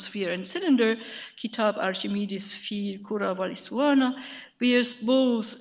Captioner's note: speaks in a foreign language